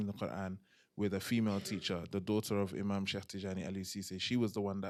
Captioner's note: non-english